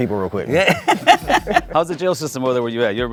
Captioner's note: laughs